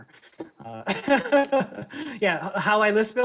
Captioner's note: laughs